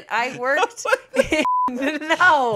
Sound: laughing; beep

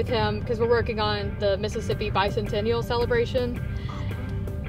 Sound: whispering

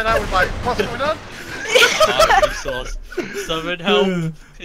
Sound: everyone laughing

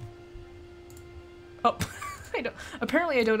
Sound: wheezes

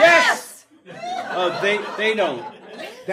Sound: audience laughing

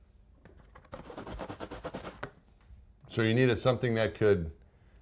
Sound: rubbing sounds

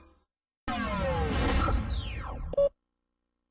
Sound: winding-down video game sounds

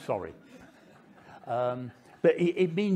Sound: audience laughing

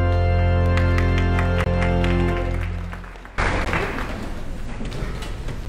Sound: audience applauding

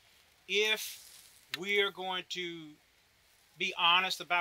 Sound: none

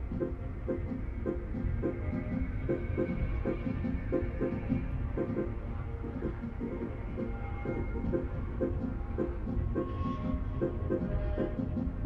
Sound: a series of clocklike flutters

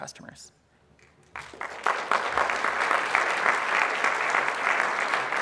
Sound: audience applauds

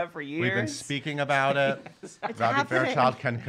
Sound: laughing

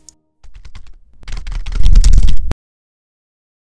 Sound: typing rapidly!

